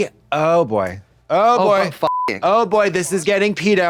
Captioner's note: beep